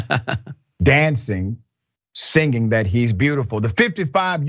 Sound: laugh

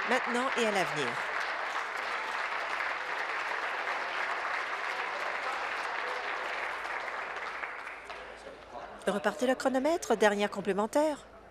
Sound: applause

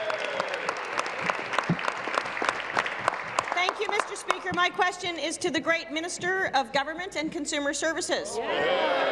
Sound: applause

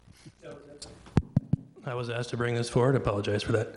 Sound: microphone tapping

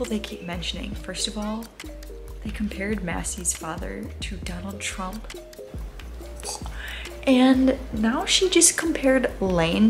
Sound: gags

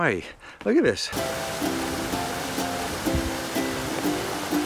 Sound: water rushing

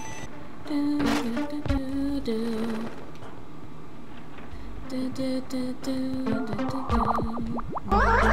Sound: humming

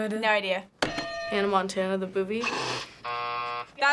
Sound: buzzer

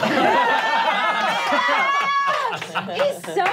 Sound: laughing

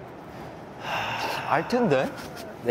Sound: deep sigh

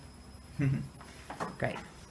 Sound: chuckles

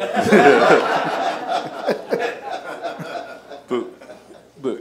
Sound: laughing

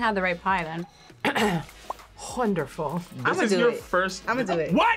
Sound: clears throat

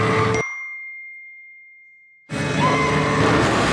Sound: phone chimes

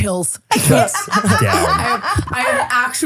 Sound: laughing

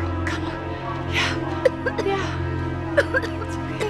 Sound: coughing

